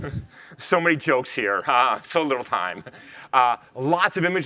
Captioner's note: chuckles